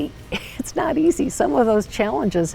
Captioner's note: laughing